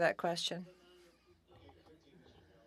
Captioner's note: speaking French